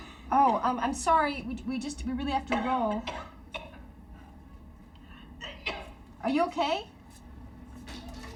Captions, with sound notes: - Oh, I'm sorry. We just, we really have to roll. (Kelly coughing) Are you okay?